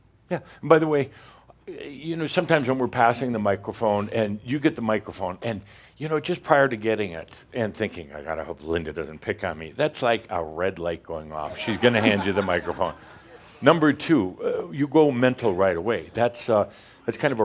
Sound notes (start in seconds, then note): 11.4 laughter